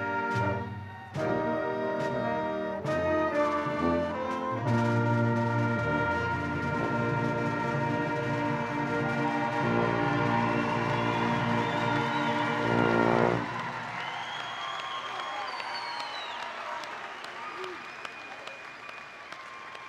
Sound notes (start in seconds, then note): 11.7 audience and faculty cheering; 14.1 audience and faculty applauding